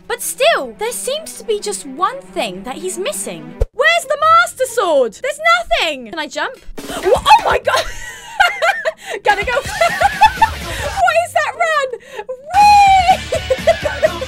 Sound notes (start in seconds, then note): 6.9 laughing; 6.9 starts laughing; 10.1 laughs again; 12.0 uncontrollable laughing at this point